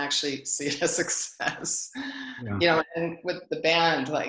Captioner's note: laughs